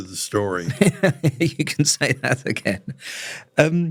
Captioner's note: laugh